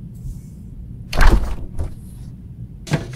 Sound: fridge door opens

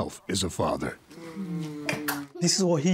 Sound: smooching

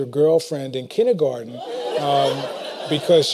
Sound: laughter

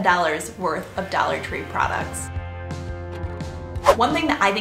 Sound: whooshing

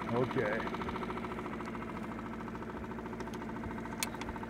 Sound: boat engine idling

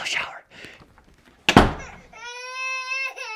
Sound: door slams; baby crying

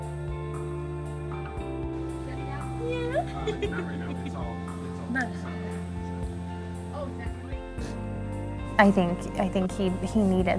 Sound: background Discussion

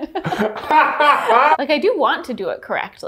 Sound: both laughing

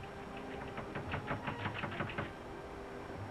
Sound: knocking on door

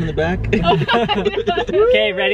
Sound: laughing

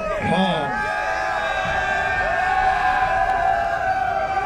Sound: cheering

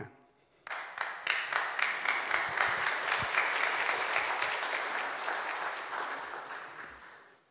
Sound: applause

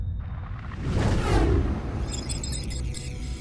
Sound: electronic whirring; whooshing

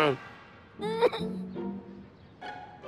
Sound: whimpers

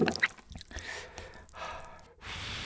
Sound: ssssp

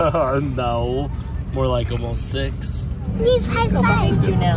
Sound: laughs

